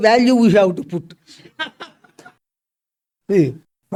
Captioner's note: laughs